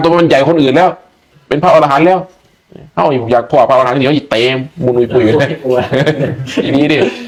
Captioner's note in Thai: เสียงหัวเราะ